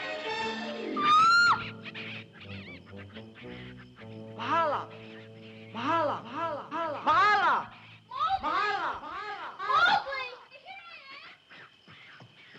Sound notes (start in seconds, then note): 0.0 voice echoes; 1.0 Mahala screams; 1.0 monkeys chittering; 6.7 voice echoes